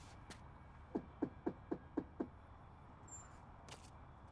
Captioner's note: knocking on door